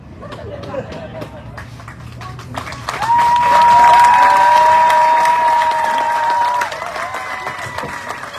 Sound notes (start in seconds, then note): 0.2 audience laughs, exclaims; 1.5 audience cheering, applauding